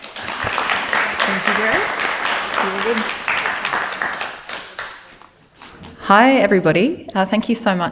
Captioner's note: applause